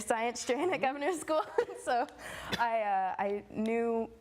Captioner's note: laughing